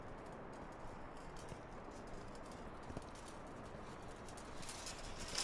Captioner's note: clothing trolley rattling